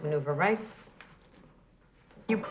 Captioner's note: pager beeping